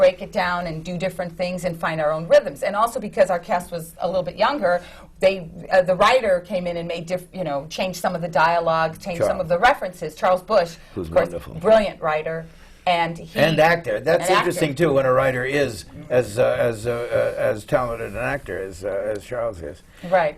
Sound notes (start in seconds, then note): none